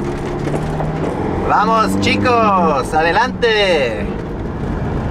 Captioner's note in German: auf Spanisch